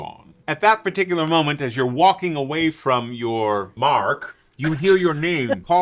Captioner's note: laughs